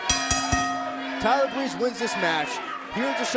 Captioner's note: bell ringing